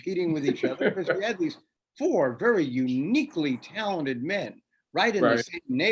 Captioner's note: laughs